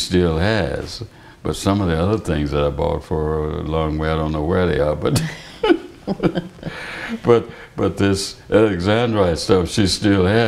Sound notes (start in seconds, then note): 5.1 laughter